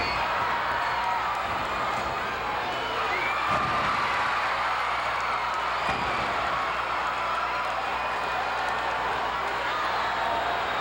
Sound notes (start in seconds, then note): 5.5 audience cheering